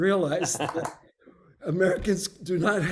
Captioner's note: laughs